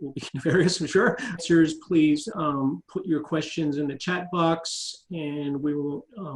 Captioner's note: laugh